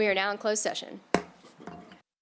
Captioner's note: gavel hitting dais